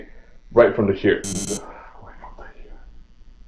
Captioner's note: buzzer; whispers